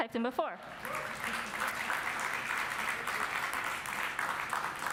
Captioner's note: audience applauds